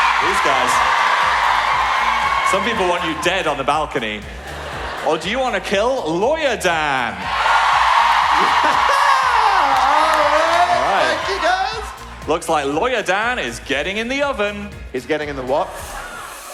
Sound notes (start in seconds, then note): 0.0 audience cheer; 7.2 louder screaming